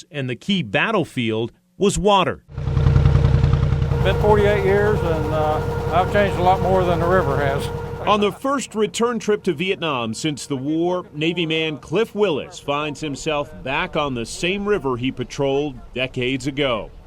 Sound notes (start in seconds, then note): 2.7 boat motor running